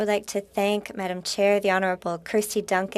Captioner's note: speaking French